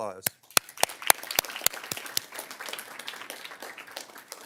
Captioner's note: everyone claps